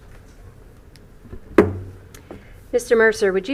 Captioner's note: gavel hitting dais